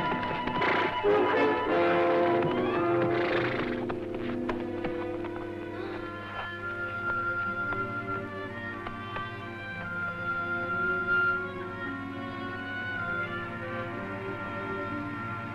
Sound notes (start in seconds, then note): 5.8 woman sighing; 6.9 light orchestral music